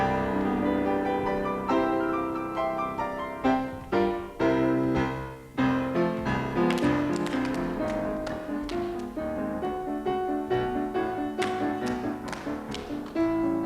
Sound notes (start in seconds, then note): 0.1 musical buildup; 6.6 claps; 11.4 claps